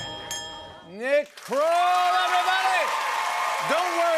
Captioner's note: cheers and applause